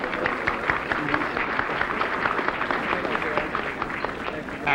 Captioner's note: applause